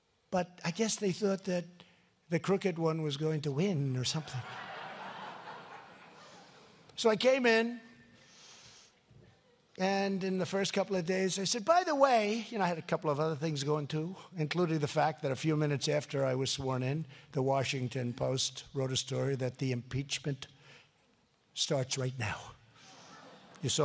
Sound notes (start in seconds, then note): 4.2 laughter